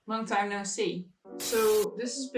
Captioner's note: TV static buzzes